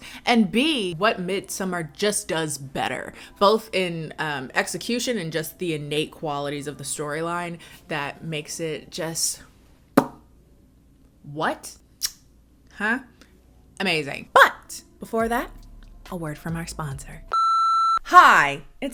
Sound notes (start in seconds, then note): 9.4 lips smacking; 12.0 kissing; 17.3 beeping